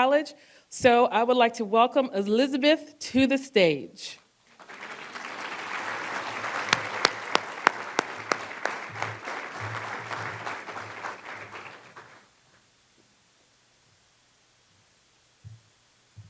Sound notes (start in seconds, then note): 4.4 applause